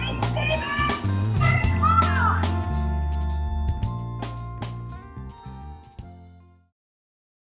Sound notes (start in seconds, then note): 2.6 kid shouts